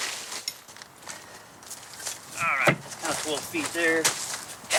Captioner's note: construction noise